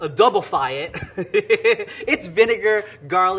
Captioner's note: laughing